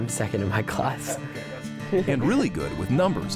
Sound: inspirational acoustic guitar music; laughs

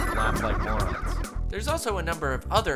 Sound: ghosts laughing

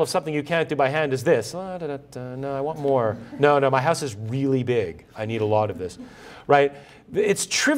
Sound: laughter

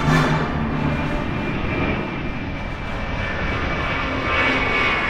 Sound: airplane engine roaring

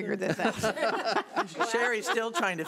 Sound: laughs

